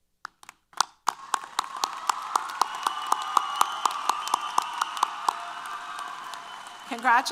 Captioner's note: applause & Cheers